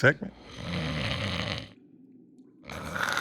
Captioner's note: snoring